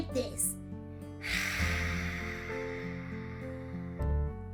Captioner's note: exhales